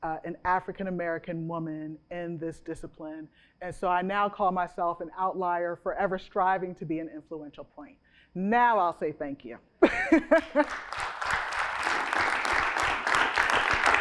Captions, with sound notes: an African-American woman in this discipline. And so I now call myself an outlier forever, striving to be an influential point. Now, I'll say Thank you. [CHUCKLES] [APPLAUSE]